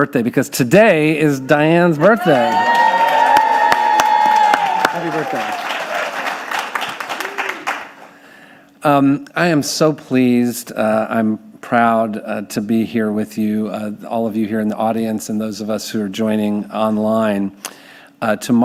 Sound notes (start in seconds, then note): 1.3 audience cheering